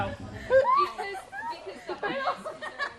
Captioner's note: giggling